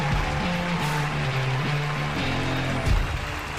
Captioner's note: audience cheering; energetic music